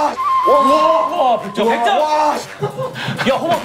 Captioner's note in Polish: Cichy, ale radosny okrzyk